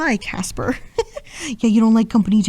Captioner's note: woman giggling